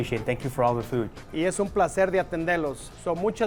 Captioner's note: in Spanish